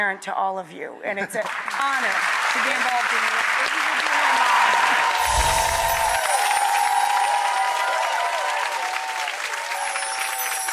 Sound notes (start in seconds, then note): 4.0 applause